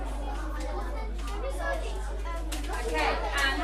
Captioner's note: children talking